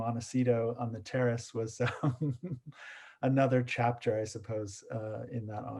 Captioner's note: chuckles